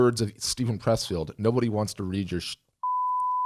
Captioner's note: beep